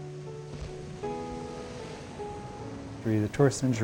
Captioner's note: calm music; surf crashing